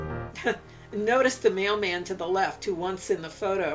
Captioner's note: chuckles